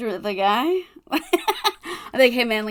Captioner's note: laughing